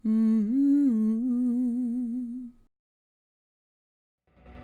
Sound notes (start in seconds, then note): 0.0 intro humming